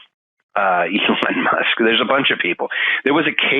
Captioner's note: laughing